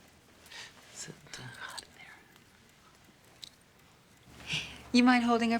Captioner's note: quietly